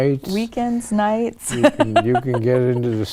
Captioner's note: laughs